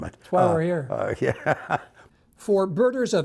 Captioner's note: laughs